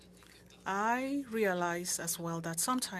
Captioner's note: speaking French